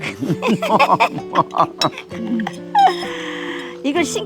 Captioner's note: both laughing